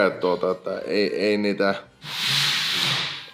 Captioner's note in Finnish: hengähtää